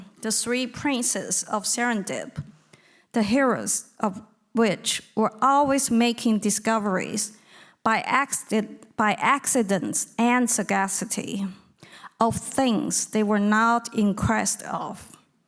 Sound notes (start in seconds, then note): none